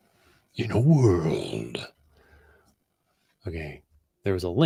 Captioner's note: in dramatic voice